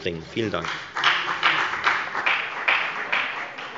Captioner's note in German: Beifall bei der FDP